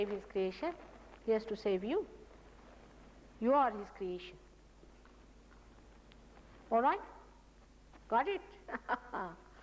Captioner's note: mother laughs